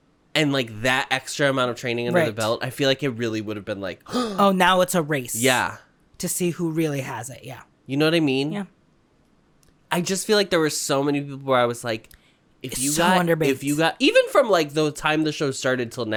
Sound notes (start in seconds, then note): 4.1 gasp